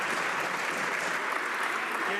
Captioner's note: some Applause